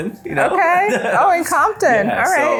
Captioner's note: laughs